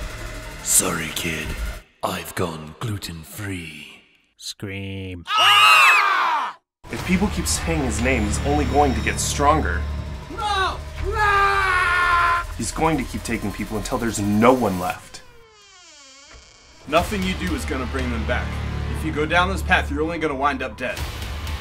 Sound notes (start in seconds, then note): 5.2 screaming intensifies; 14.4 door creaks open